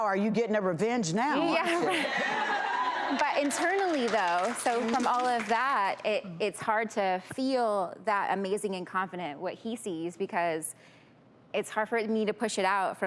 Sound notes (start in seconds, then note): 3.5 crowd cheers